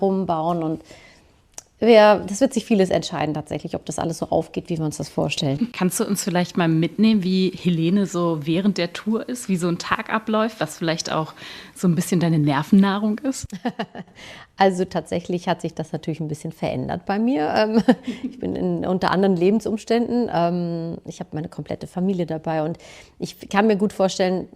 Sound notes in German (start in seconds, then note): 13.4 gelächter